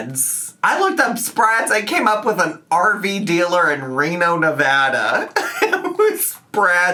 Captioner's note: laughs